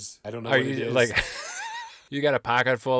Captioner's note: laughing